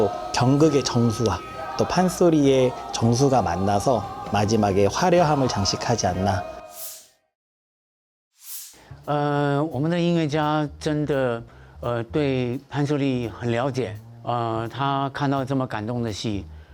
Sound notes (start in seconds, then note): 9.1 speaking in Chinese